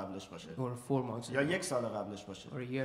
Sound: speaking in farsi

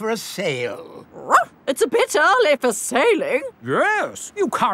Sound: barks

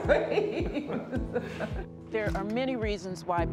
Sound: laughing

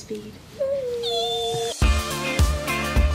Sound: squeals excitedly; upbeat music

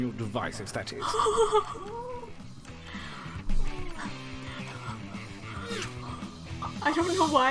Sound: audible breathing

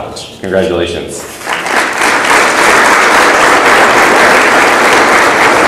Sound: audience applauds

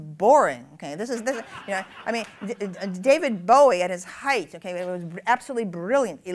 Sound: laughter

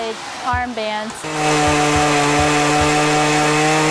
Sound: chainsaw motor revving

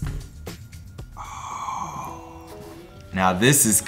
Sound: boy gasping

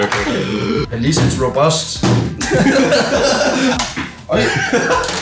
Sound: laughing

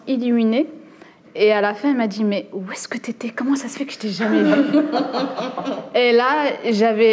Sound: laughs

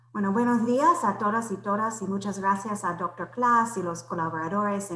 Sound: speaks foreign language

